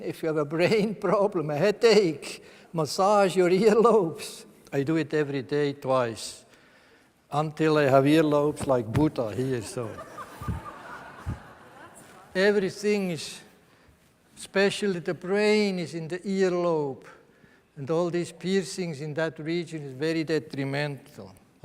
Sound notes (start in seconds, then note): 9.4 laughter from the audience